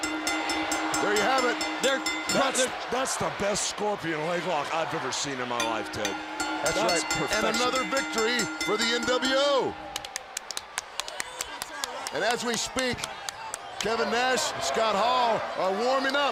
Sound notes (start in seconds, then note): 1.1 crowd cheering; 1.9 bell ringing; 7.6 bell ringing